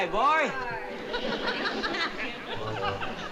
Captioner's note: audience laughing